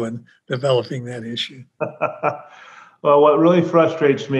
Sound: laughs

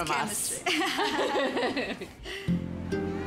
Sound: both laugh

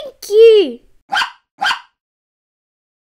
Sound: bark

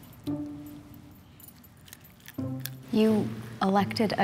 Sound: doggie chewing

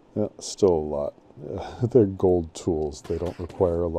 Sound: chuckling

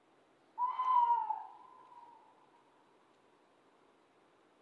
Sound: bird calling

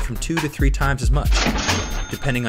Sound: cha-ching!

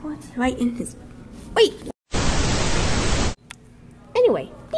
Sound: begins to say what? before getting cut off by the static

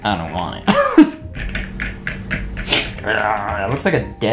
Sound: laughing; fork clanking

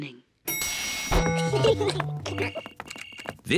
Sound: elevator bell dings; kids giggling

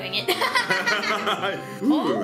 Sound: laughs

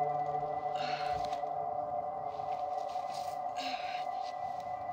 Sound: Brigit grunting

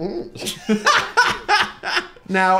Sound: everyone laughs

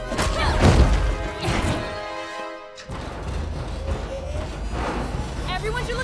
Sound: straining

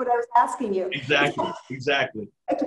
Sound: laughs

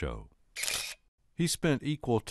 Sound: shutter clicking

